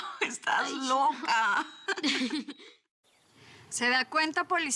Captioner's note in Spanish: Risas